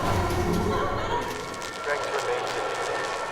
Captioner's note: electrical fizzling